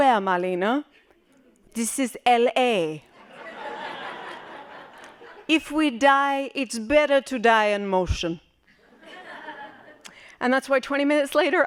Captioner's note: laughing